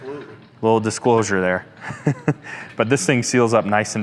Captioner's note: chuckles